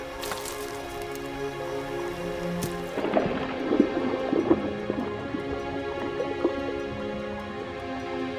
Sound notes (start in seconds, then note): 0.0 gentle music; 3.1 water sloshes